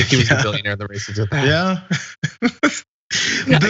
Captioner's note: laugh